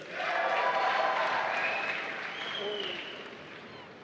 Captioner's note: applause